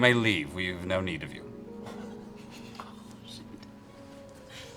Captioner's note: whispered